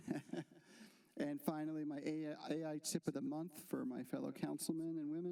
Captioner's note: laughter